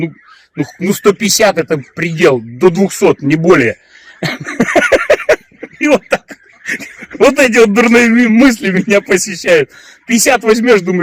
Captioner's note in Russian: смех